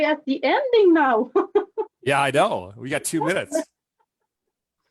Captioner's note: laughs